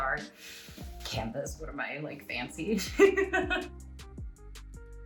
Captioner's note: giggles